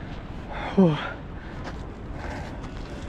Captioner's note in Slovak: vzdychanie